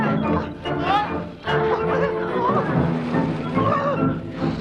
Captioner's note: villager whining